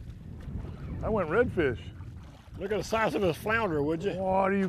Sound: splashing

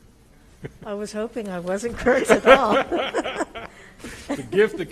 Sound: laughs

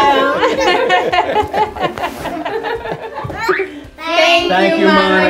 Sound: laughter

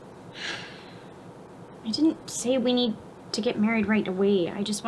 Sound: sighs

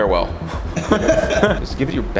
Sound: laughs from behind the camera

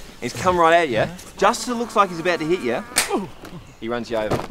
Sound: clap

